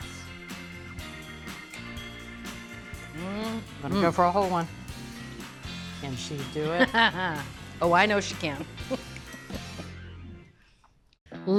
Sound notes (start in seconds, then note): 0.1 cheerful music; 4.7 cheerful music; 6.7 Julia laughs; 6.9 cheerful music; 8.9 cheerful music